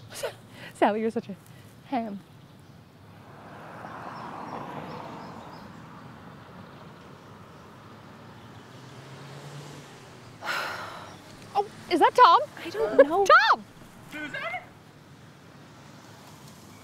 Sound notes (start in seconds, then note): 3.1 cars passing; 10.4 deep sigh